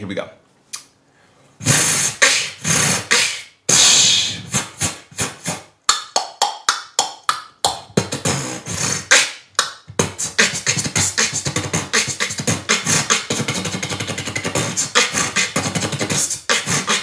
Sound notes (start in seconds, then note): 1.6 beat boxing